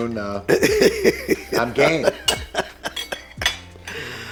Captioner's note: laughing